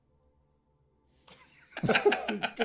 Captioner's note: laughing